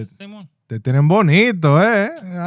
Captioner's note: speaking In Foreign Language